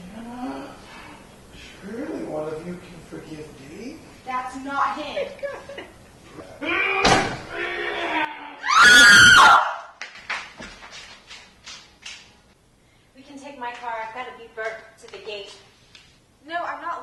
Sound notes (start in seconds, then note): 6.0 Jenna cries; 7.0 slam!; 8.4 running feet; 8.4 scream in unison